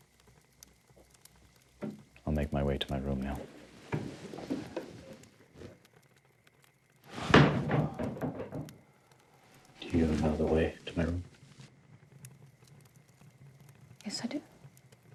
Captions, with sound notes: I'll make my way to my room now. [thud] Do you know the way to my room? Yes, I do.